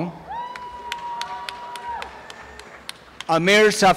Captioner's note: applause and cheering